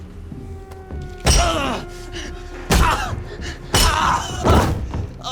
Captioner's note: groaning